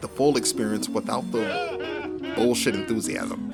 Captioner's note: nerd laughter